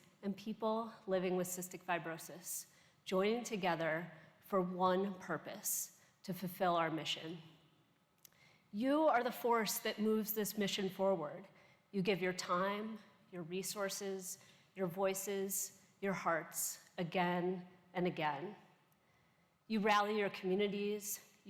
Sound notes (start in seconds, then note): none